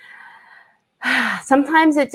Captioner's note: sighs